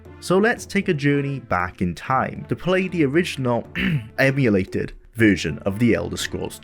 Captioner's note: cough